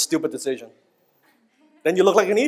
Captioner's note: audience laughs